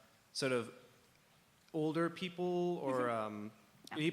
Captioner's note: none